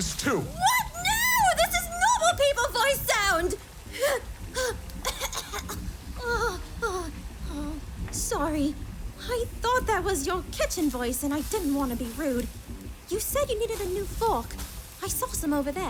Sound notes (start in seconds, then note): 3.8 coughs, calms down